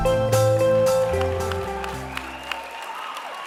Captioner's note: cheering and applause